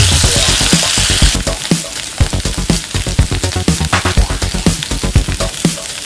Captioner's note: stir-fry the cabbage: 1/2 tsp salt, sizzling sound in the background